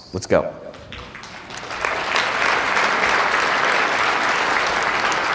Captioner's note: audience applause